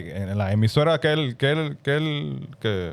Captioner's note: speaking In Foreign Language